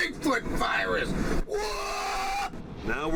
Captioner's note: screams